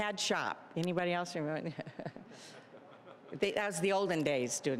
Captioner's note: all chuckling